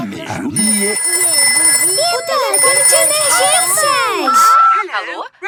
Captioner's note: phone ringing; answering machine